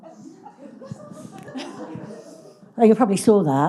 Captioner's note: audience giggling